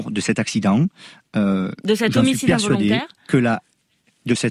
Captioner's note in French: Voix journaliste; Voix chasseur